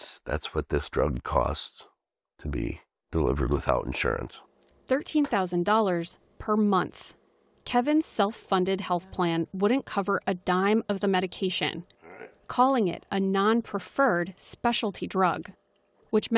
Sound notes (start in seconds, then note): 5.5 voice-over